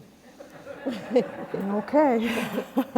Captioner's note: laughter